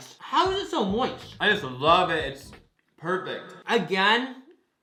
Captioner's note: echoing